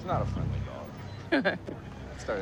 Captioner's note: laughs